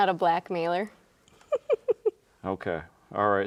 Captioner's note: chuckles